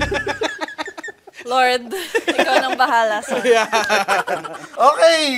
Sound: laughter

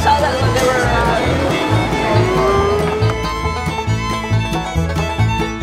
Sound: vroom

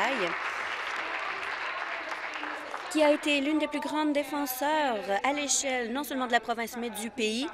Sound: applause

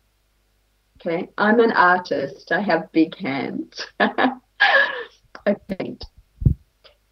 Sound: laughts

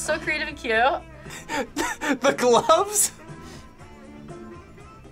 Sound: laughs

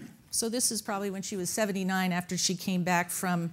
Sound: none

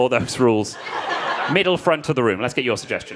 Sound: crowd laughing

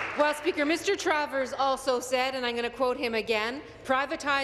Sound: applause

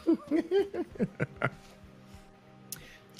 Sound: laughing

